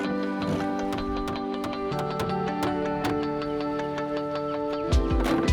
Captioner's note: hammer pounding; screwdriver ratcheting